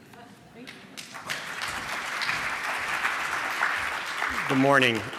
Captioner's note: applause